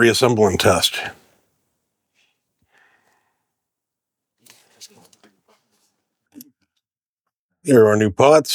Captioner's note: silence